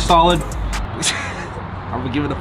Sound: laughs

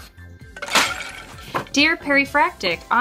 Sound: glass breaking

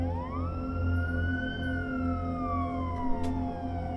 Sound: police sirens fading in the distance

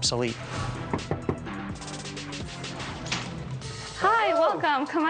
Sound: knocking on door

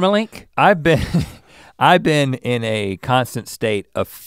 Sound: chuckles

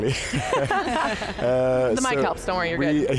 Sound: group laughs

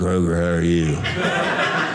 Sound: audience laughing

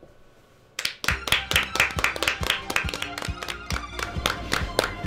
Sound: clapping

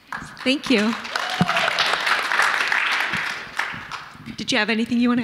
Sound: audience clapping

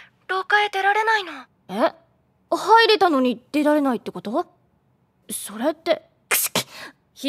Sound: sneezes

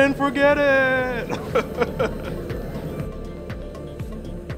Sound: laughing

